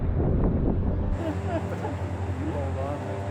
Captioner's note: surveyor sobbing